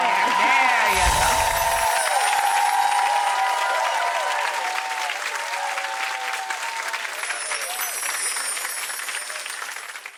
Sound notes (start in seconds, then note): 1.6 crowd applauds and cheers; 2.7 chimes ring; 7.1 chimes ring